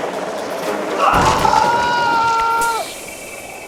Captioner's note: crash ♫; engine stops ♫